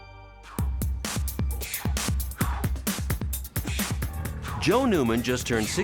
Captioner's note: upbeat techno music; breathing heavily